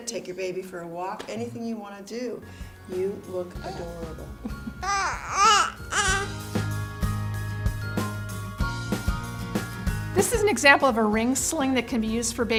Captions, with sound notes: Take your baby for a walk, anything you want to do. You look adorable. (baby gurgles) - This is an example of a ring sling that can be used